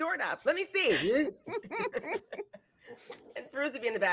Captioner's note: cast laughing